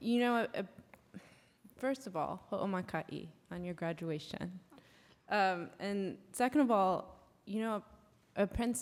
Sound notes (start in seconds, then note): 2.2 non-english speech